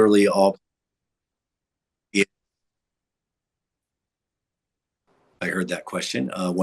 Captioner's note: audio cuts out